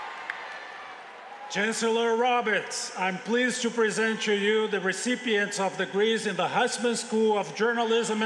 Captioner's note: cheers and applause